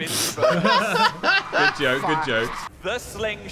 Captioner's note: laughing